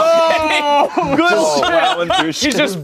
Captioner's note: everyone laughs